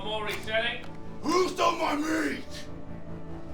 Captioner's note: man, louder